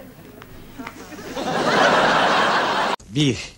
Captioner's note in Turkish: Gülme efekti